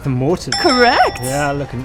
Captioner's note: bell rings